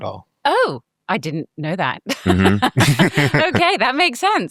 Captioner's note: laughing